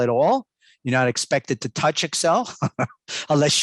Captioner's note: laughs